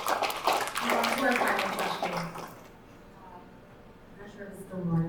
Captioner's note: audience applauding; audience applauding drowns out